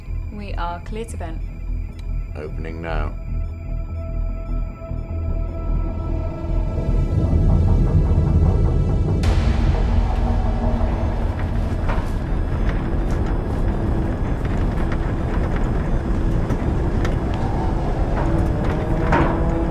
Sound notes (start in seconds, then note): 5.4 soft celestial music rising; 7.1 submersible droning; 9.4 submersible rumbling; 12.5 monitors beeping; 15.5 submersible rumbling continues